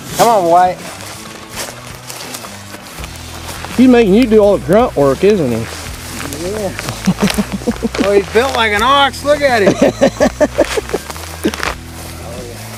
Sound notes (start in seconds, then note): 6.9 laughing